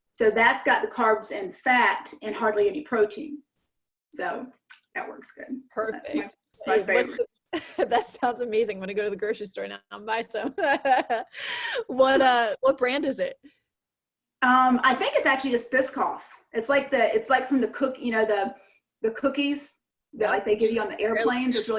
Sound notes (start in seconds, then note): 6.8 chuckles; 10.4 laughs